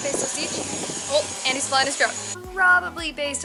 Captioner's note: buzzing sound starts